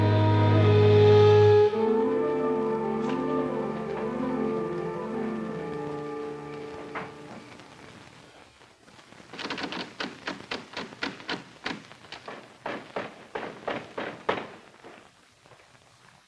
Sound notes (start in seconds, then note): 9.4 door handle rattles; 12.9 knocks